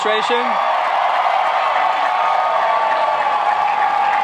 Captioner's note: applauding